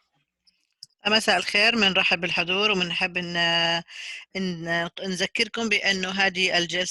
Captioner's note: in foreign language